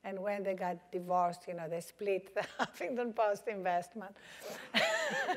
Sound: laugh

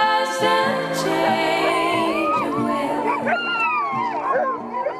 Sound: dogs howling

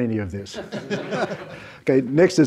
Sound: panelists and audience laugh

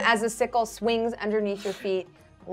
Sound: none

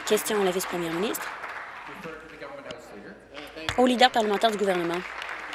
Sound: applause

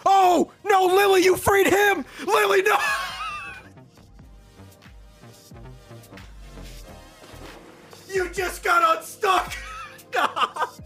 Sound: laughs

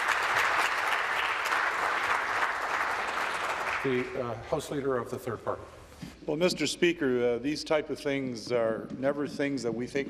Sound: applause

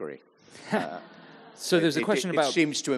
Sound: audience chuckles

